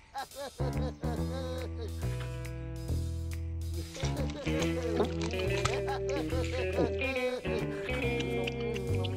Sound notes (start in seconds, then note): 0.0 giggling; 3.8 gulping, chewing